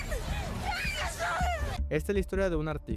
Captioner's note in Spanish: lloros